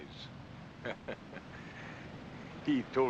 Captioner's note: chuckles